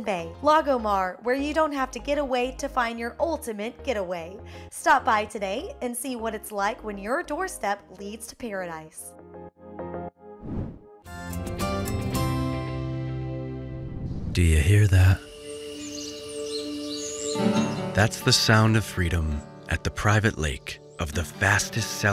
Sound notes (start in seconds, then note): 10.4 whoosh